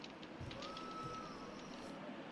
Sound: lady whistling

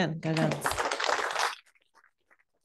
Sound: applause

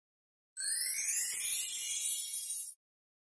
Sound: chiming

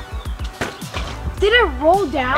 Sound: ball hitting board

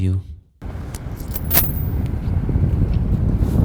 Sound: the sound of fallen coins

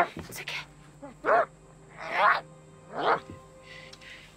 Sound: barking

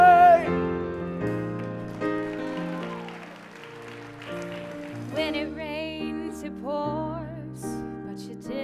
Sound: applause

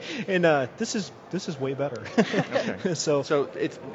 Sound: laughs; laughter

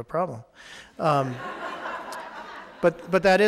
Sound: audience laughing

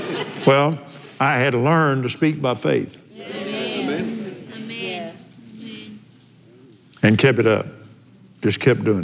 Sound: laughs

